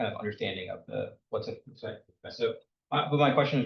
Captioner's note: speaks faintly